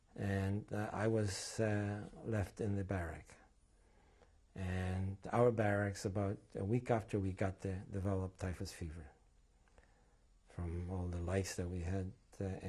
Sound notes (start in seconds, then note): none